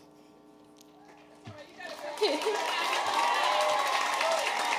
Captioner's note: audience cheering